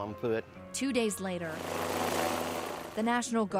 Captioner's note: helicopter rotor